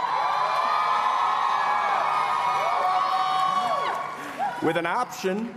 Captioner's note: cheering